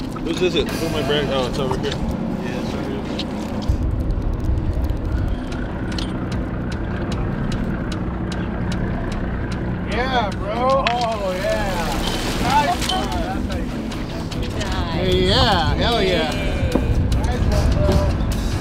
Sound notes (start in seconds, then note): 4.3 helicopter whirs overhead